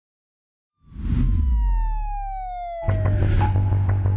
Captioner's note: siren wailing; pensive music